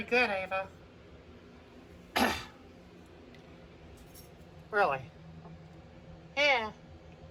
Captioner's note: clears her throat